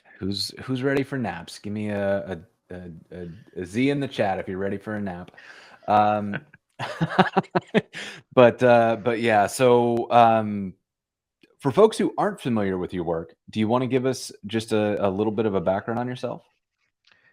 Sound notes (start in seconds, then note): 6.8 laughter